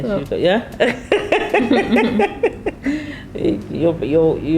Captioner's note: both laughing